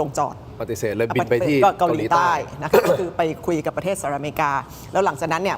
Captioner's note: clears throat